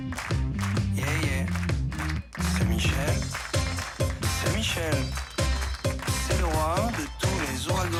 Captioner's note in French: applaudissements